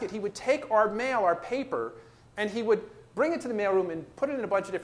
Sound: none

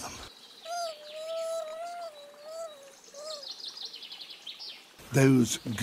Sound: continued Worm Noises

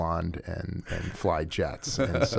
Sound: chuckle

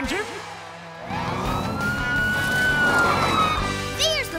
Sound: siren blaring

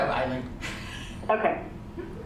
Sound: laughs

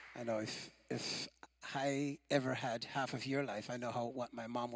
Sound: applause

